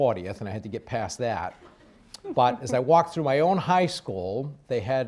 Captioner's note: laughter